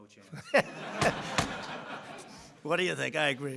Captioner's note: laughter